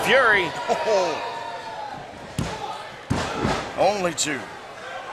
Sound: referee counting

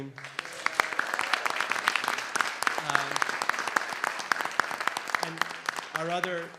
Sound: applause

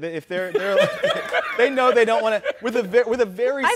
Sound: Charlamagne laughs

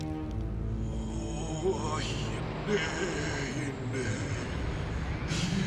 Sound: non-english speech

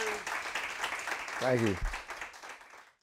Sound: audience applauding

